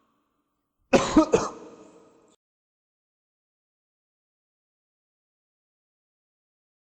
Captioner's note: coughing